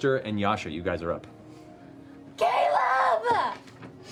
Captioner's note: screaming